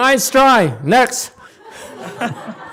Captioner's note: audience laughs